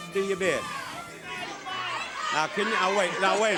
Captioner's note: audience shouting